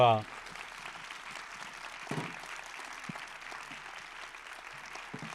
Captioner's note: audience applauds